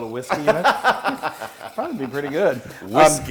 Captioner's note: laugh